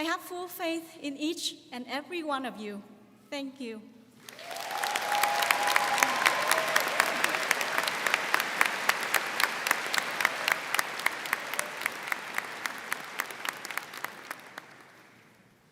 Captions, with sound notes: I have full faith in each and every one of you. Thank you. (crowd clapping)